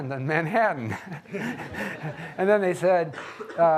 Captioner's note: audience laughing